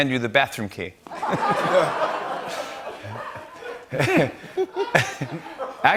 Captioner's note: laughter